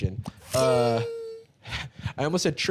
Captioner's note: fwing!